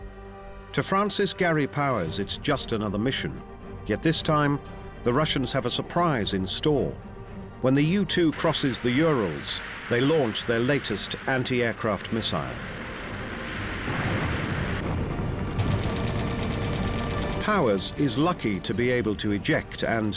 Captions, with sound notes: To Francis Gary Powers it's just another mission. Yet this time, the Russians have a surprise in store. When the U-2 crosses the Urals, they launch their latest anti-aircraft missile. [rattling] Powers is lucky to be able to eject